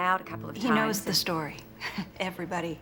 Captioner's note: chuckles